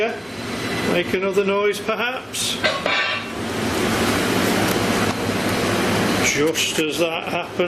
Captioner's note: loud clanking